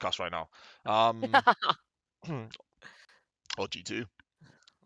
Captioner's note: laughs